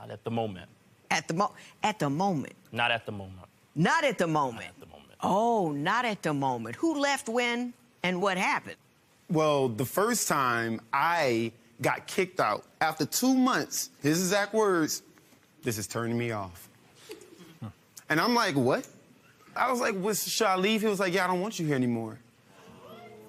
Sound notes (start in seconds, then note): 17.0 chuckling; 23.1 spectators murmuring